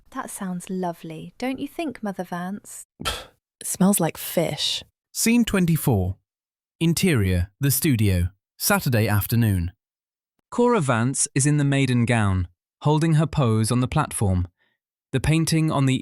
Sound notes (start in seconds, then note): 3.0 stifled rage; 3.5 disgust